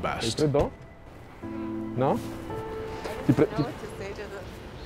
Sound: foreign language

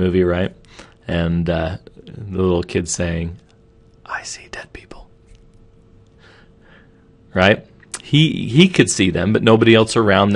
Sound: whispering

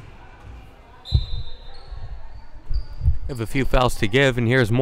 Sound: whistle blowing

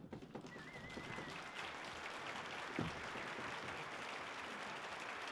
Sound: audience applauding

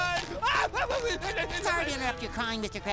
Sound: sobbing

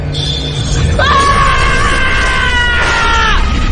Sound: yelling

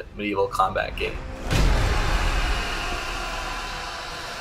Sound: explosion

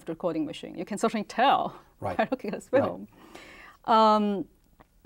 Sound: laughs

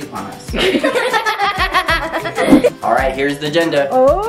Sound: girls laugh

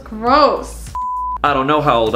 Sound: screen beeps

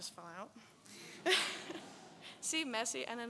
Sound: audience laughs

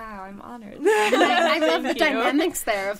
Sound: all laughing

